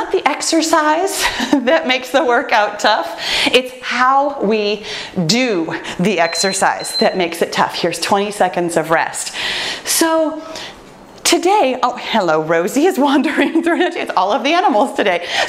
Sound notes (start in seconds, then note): 6.2 timer beeps